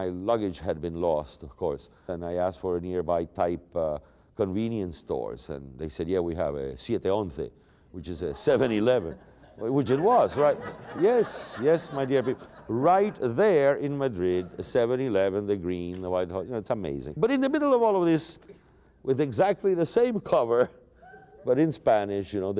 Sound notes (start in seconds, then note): 8.2 laughter